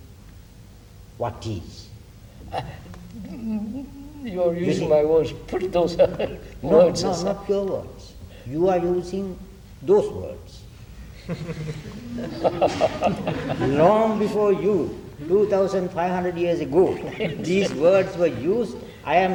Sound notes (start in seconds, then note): 6.6 laughs; 11.1 laughter